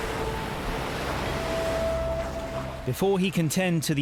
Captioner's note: waves crash